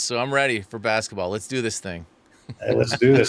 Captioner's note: laughing